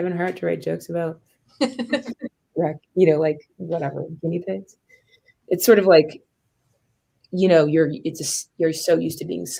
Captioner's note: laughter